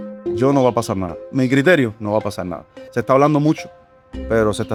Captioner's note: speaker speaking in Spanish